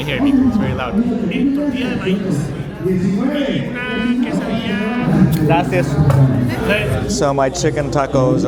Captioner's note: foreign language